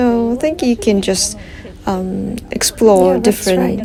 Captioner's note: laugh